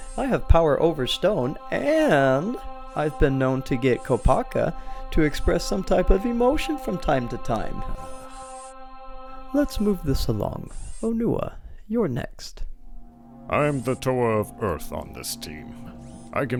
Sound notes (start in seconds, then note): 8.2 Kopaka sighs, annoyed